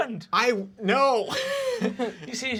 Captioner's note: laughing